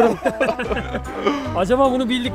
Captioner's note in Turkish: Gülüşmeler ve komik müzik